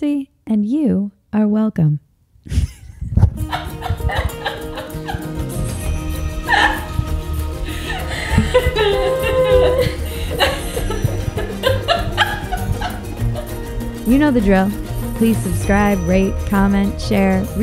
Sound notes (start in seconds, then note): 2.5 laughs loudly; 4.2 light upbeat music